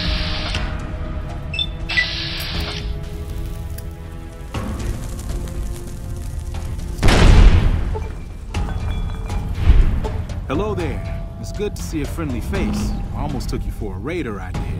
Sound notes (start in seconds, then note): 7.2 explosion